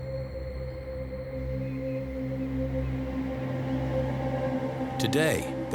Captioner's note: birds chirping faintly